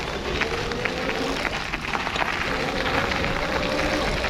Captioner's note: bike whirring